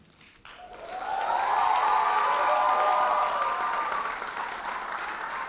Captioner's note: audience cheers and applauds